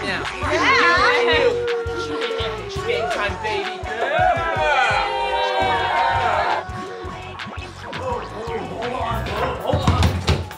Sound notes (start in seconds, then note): 3.8 crowd cheers